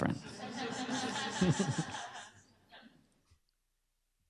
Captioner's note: laughter